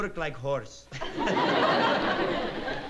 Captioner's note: laughs